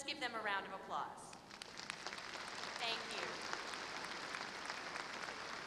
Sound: applause

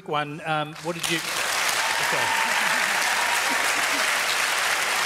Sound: cheering and applause

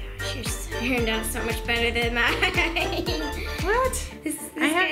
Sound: laughs

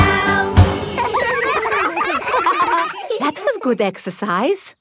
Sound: all giggling

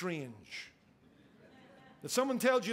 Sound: congregation laughing

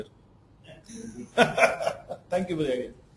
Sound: laughs

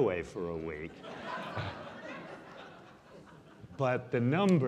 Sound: audience laughing

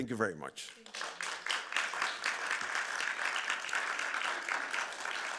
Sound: audience clapping

